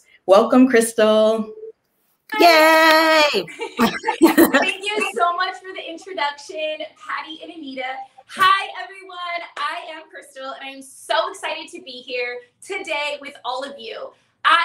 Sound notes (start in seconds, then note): 2.3 cheering